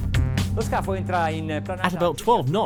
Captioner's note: funky music; man speaks in foreign language